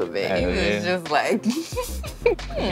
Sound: giggles

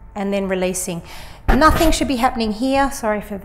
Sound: microphone bumps softly

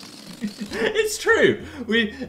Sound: laughing

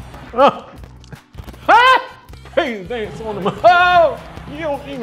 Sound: excitedly shouting

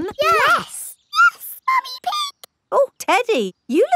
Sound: in high-pitched voice

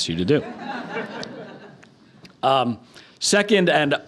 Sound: crowd laughing

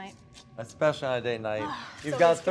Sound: sighs

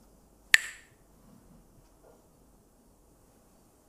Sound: clacks the sticks

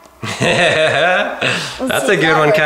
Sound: laughs

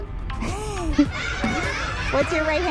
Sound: and children laugh

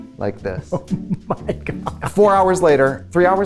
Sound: laughs

